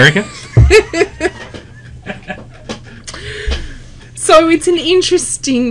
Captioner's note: laugh